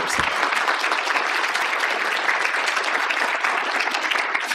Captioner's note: applause